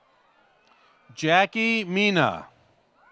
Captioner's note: applause